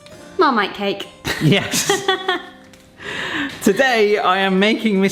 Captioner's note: laughs